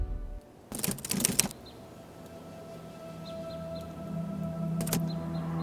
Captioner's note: typewriter keys clacking; camera shuttering